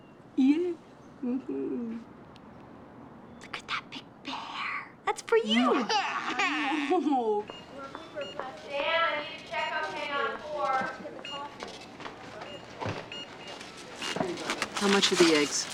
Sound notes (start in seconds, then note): 5.5 crying; 7.9 announcement on pa